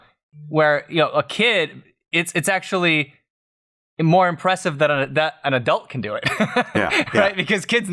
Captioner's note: laughter